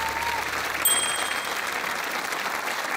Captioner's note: typewriter clacks; ding!